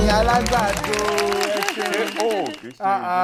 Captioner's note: buzzer pressed